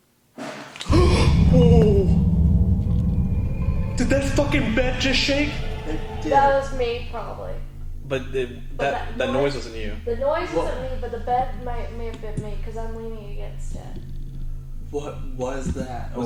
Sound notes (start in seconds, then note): 0.8 banging; 0.9 gasping